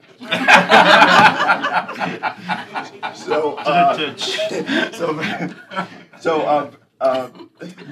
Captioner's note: laughter